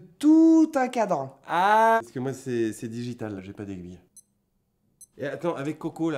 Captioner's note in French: bip bip